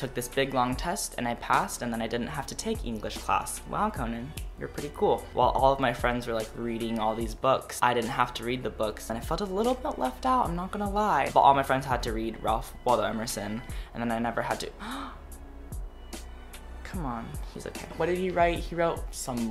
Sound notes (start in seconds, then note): 14.8 dramatical gasp